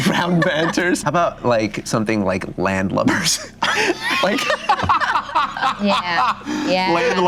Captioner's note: group laughter